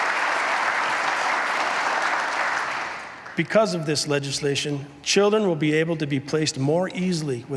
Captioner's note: applause